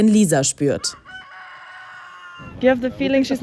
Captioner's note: distant rooster crowing